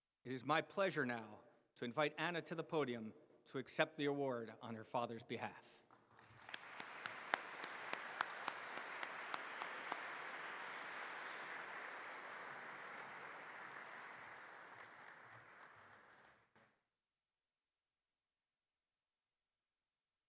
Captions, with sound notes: It is my pleasure now to invite Anna to the podium to accept the award on her father's behalf. [APPLAUSE]